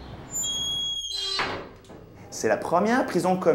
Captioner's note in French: porte qui grince